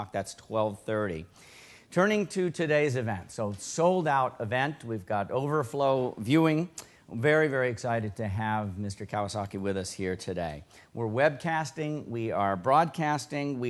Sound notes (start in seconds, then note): none